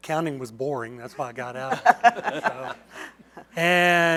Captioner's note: laughter